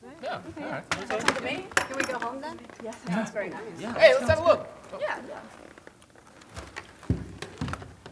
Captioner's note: agreeable chatter